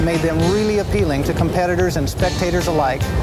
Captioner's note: voiceover